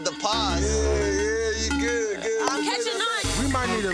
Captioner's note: hands clap; upbeat hip-hop music